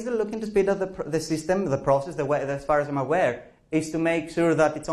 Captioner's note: professor speaking